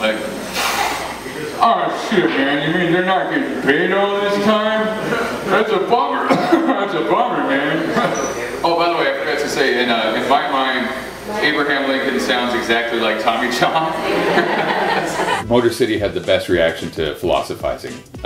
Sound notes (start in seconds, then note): 6.2 cough; 14.1 laughter